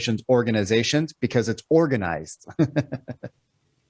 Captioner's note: laughs